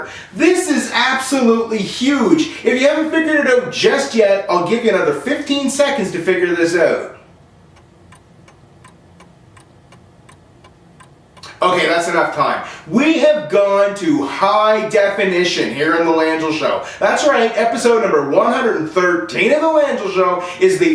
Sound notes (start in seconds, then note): 7.7 clock ticks